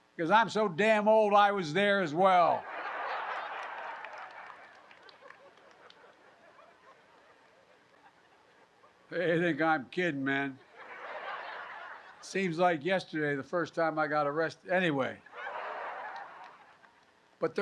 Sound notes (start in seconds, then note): 2.6 laughter; 10.6 laughter; 15.2 laughter